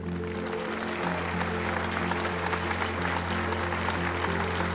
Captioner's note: audience applauding